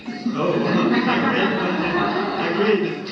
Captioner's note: laughter